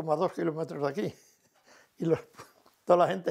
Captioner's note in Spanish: ríe